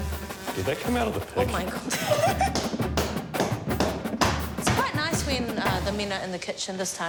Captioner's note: laughs